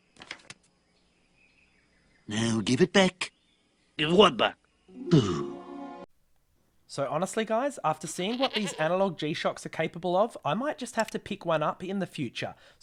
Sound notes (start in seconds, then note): 5.0 sighs